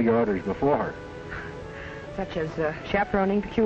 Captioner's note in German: Kate lacht